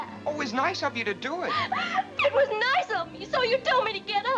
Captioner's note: sobs